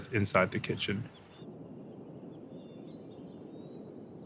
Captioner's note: birds chirping